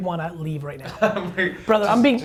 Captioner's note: laughs